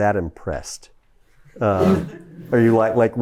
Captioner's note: chuckles